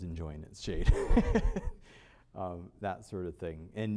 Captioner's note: laughter